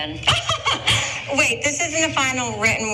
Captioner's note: laugh